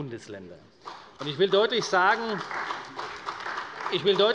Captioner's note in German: Beifall bei der CDU